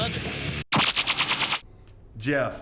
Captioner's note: logo buzzes